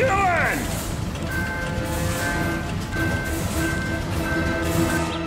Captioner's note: warning bell sounding